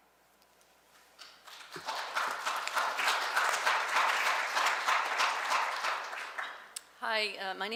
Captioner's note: clapping